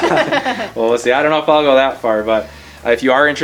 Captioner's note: laughter